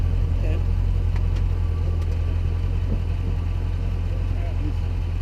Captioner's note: engine running